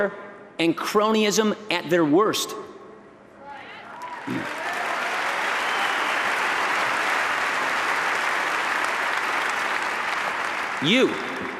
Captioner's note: applause